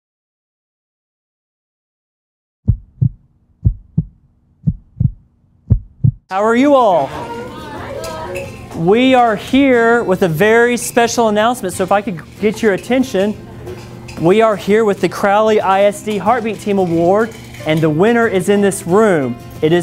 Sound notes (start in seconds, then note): 3.6 rhythmic heartbeat; 7.2 children exclaiming